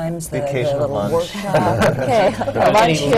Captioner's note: laughter